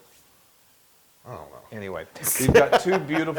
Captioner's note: laugh